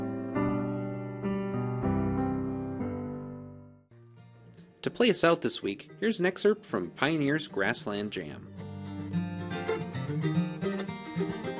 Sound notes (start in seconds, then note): 6.6 voiceover